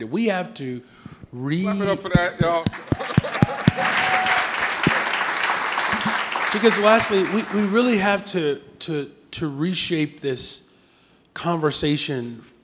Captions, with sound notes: We have to re- - Clap it up for that, y'all. (laughs) (audience clapping) - Because lastly, we really have to reshape this conversation